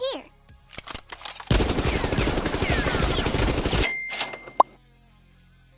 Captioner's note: sounds of her Precious Family emptying their wallets